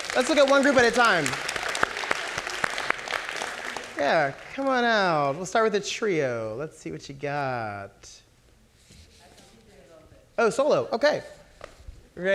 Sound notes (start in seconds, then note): 0.0 audience clapping